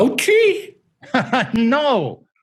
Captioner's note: laughing